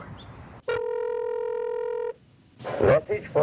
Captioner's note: phone ringing